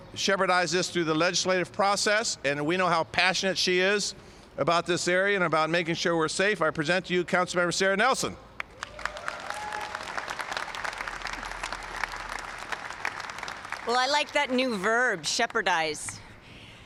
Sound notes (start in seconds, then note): 8.6 applause